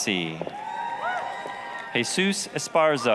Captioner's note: applause, cheering